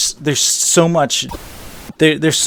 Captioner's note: static